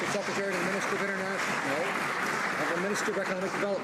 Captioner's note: some Applause